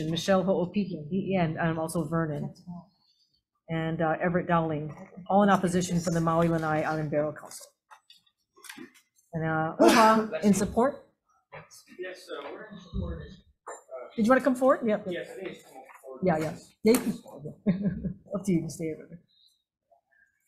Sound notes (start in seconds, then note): 17.6 chuckles